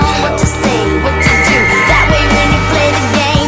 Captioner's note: Bric blows whistle for help